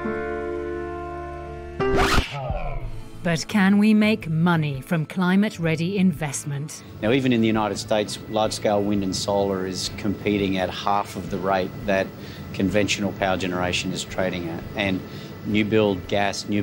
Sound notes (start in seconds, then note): 1.8 record scratching